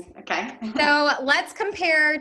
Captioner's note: laughs